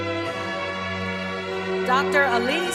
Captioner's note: cheering